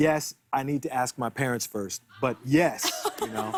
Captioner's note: laughter